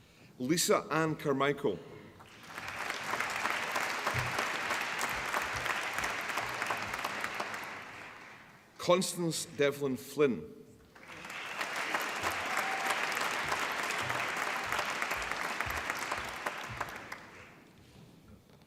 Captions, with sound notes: Lisa Anne Charmichael (APPLAUSE) Constance Devlin Flynn (APPLAUSE)